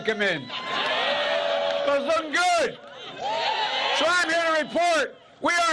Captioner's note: cheers